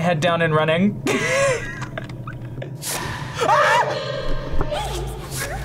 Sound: laughs; screams

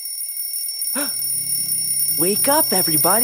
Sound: alarm clock rings; man gasps

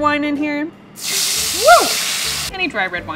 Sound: pan sizzles

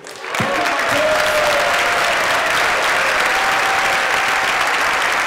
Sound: applause

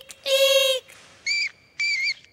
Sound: squeaking

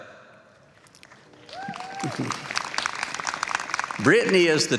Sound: applause

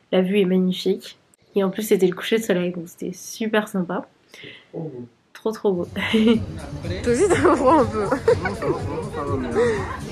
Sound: laughs

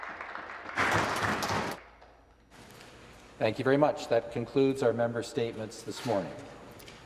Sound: some Applause

